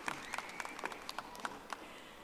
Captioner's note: audience applauding